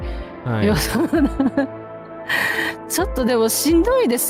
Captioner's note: laughter